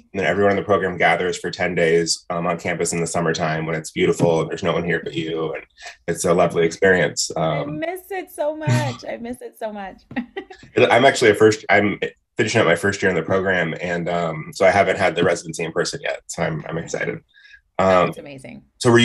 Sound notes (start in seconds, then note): 8.5 laughs